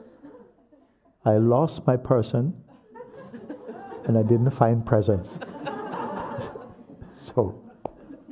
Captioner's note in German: Lachen